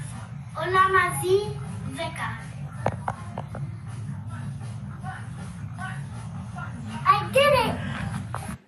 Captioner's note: hall noise